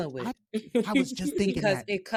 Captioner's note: laughing